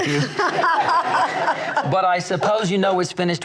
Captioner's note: laughs